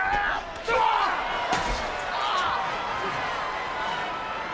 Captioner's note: body thuds